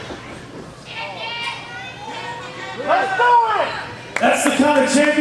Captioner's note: audience shouting